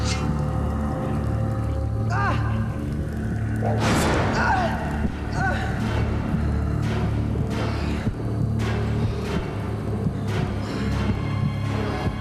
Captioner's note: screams in pain